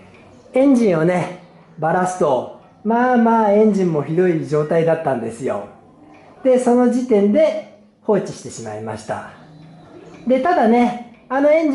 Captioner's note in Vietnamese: cười